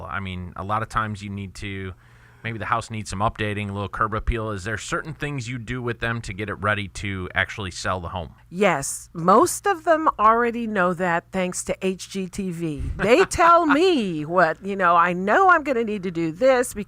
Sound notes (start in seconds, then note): 12.9 hosts laughing